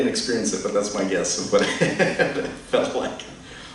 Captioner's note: chuckles